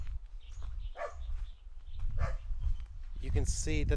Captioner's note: dogs barking